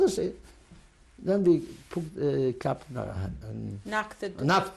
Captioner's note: non-english